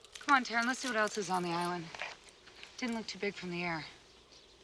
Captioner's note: none